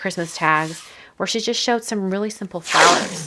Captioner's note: hand rubbing tape